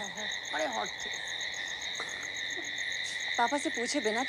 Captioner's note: Snickering